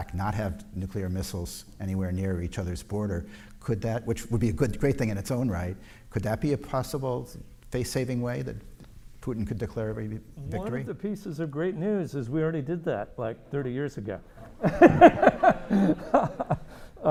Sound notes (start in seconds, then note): 14.3 laughs